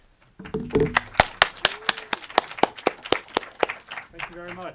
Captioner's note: audience applauds